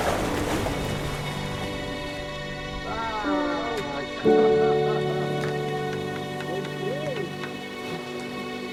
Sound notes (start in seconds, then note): 5.8 clapping